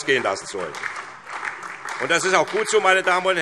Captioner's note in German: Beifall SPD und DIE LINKE